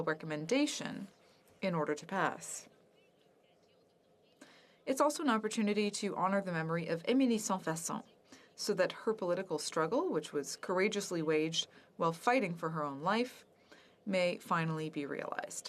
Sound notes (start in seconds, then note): 12.1 speaking French